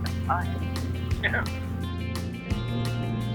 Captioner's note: laughing